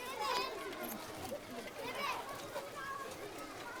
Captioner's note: children chattering